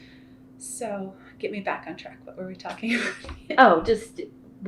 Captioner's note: laughs